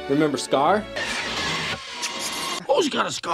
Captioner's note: nail scratching